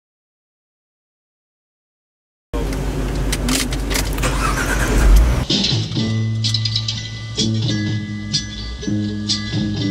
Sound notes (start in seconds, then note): 3.0 ignition clicking; 3.3 engine firing